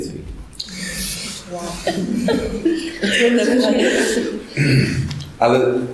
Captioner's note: laughter